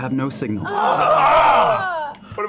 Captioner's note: groaning